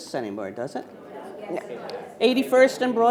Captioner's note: attendees faintly speaking